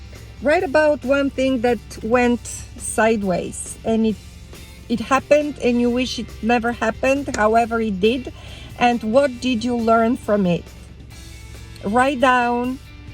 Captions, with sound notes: write about one thing that went sideways, and it happened and you wish it never happened, however it did, (hands clapping) and what did you learn from it? (upbeat music) Write down